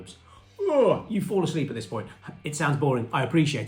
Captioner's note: yawning